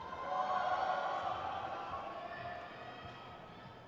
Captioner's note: crowd cheers